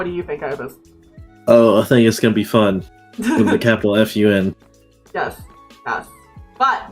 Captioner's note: laughs